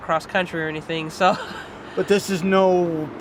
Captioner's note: chuckles